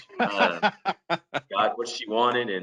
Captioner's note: laughs